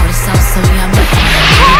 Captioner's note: splash!!